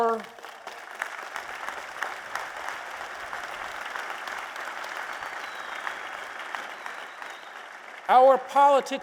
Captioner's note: applause